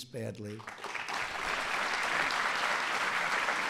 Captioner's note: applause